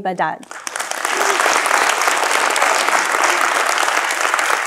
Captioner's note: audience applauding